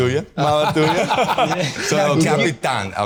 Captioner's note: all laughing